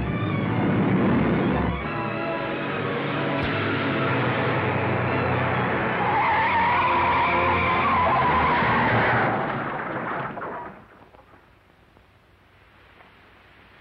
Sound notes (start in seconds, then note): 6.3 tires screeching; 9.3 car crashing